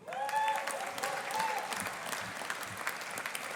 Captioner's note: audience applauding